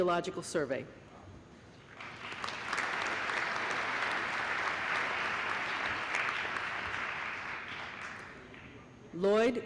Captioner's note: applause